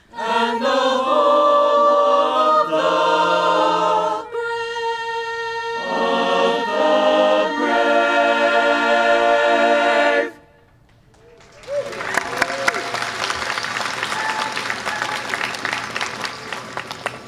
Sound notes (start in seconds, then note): 11.3 audience applause